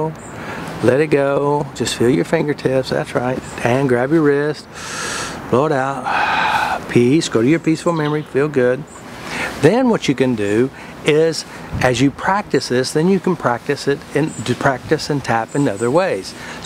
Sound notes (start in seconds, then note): 4.7 exhaling; 6.0 inhaling